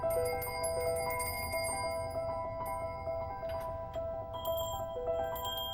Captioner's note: gently chiming bells